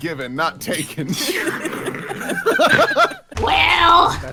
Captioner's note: snorting